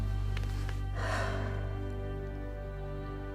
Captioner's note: sighs